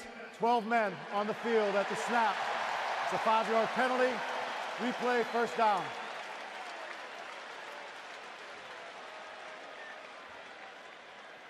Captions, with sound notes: Defense, 12 men on the field at the snap. [cheering] It's a 5-yard penalty. Replay first down.